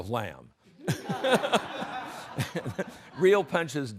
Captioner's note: everyone laughs